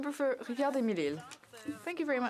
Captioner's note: speaking French